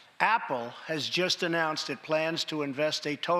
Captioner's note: none